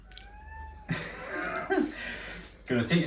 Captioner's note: laughs